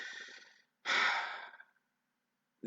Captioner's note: exhales loudly